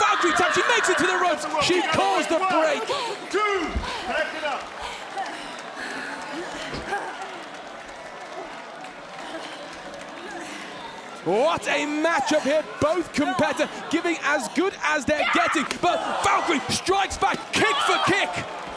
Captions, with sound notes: She makes it to the rope. She caused the break. One! Two! Back it up. (crowd applauds) What a matchup here. Both competitor giving as good as they're getting. But Valkyrie strikes back kick for kick.